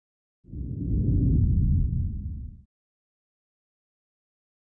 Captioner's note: logo whooshes